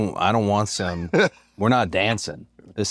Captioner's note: laugh